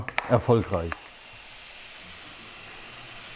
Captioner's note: low hissing